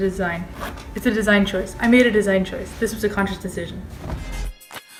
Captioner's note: sarcastically